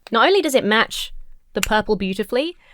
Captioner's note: none